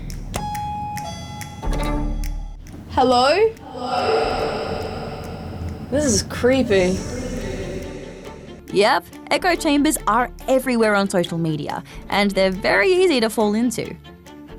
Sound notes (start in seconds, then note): 0.3 lift bell dings; 4.1 echo; 7.0 echo